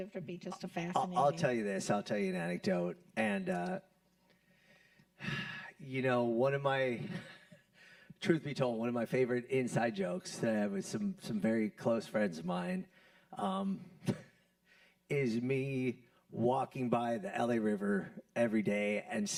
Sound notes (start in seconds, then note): 5.2 sighs